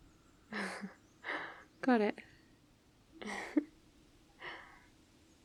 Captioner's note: laughs